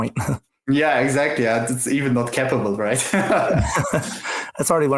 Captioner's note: laughs; laughs